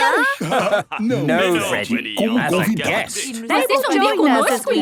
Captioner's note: laugh